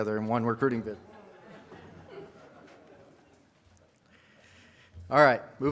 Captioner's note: audience laughs